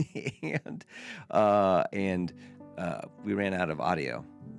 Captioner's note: laughing